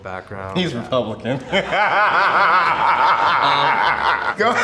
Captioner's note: laughing